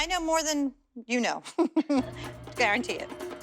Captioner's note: laughs